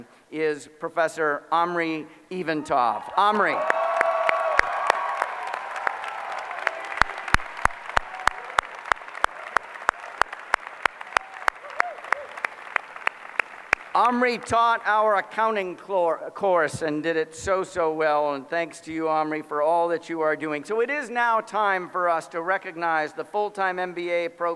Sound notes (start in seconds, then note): 3.6 applause